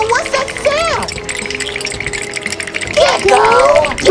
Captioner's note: teeth chattering